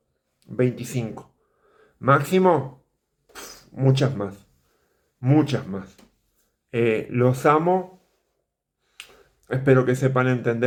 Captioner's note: pffff